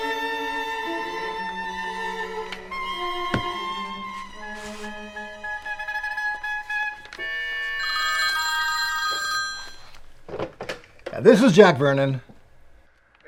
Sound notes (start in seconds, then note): 7.2 phone rings; 10.2 phone receiver clatters